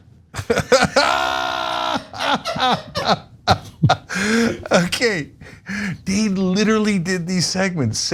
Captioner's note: laugh